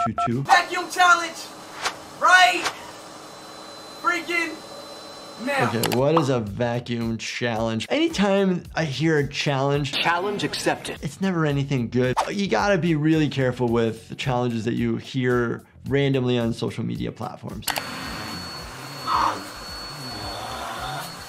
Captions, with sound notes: - Vacuum challenge. Right freaking now. - Okay, what is a vacuum challenge? Anytime I hear a challenge, - Challenge accepted. - it's never anything good. You gotta be really careful with the challenges that you hear randomly on social media platforms. (vacuum whirring) - Ah.